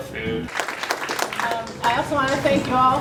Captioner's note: applause